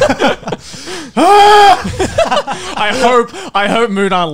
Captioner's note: all laugh